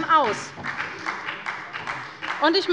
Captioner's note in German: Beifall bei Abgeordneten der SPD